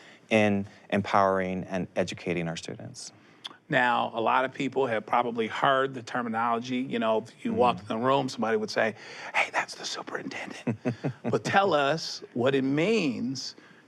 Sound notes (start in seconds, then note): 9.3 whispers; 10.6 laughs